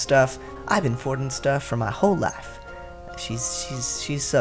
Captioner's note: vague Southern accent